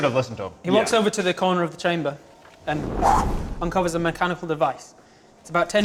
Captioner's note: whoosh